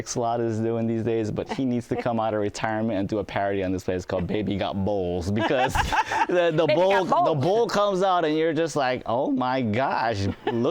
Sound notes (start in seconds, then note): 5.3 laughs